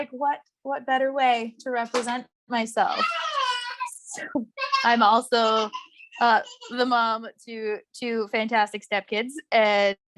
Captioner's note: toddler laughing in background